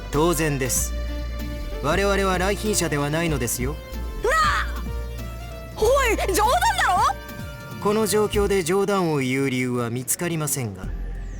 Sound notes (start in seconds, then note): 4.2 disbelief